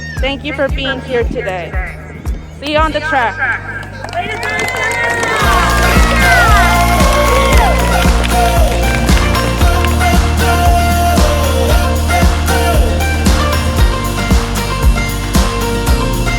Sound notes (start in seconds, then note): 4.2 crowd cheering; 6.4 upbeat music